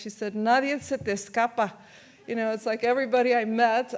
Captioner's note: speaks in foreign language